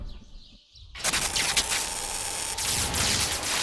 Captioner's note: electrical crackling